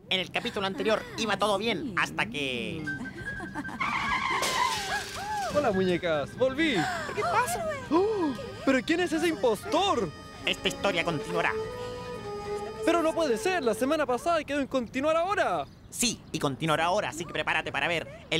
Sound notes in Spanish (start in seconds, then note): 4.2 Sonido de choque